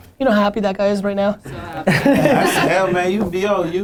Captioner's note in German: Lachen